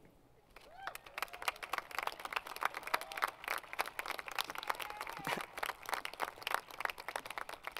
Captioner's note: applause